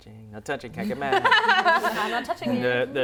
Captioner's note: laughter